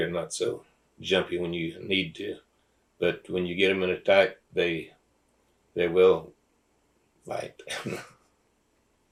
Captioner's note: laughs